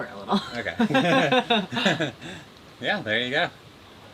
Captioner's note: both chuckle